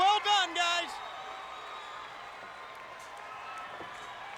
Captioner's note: crowd cheering